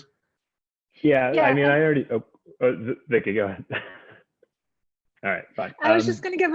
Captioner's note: laughs